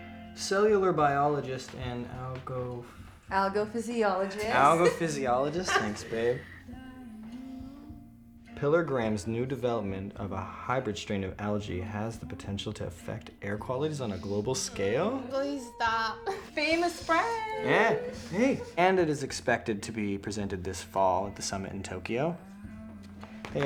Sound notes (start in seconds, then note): 4.1 laughs